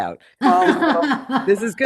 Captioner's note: laughing